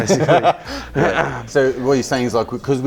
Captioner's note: laughing